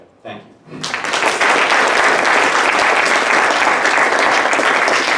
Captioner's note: audience applauding